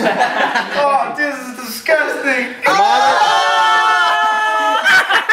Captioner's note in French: gémissements